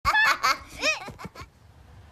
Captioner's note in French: rires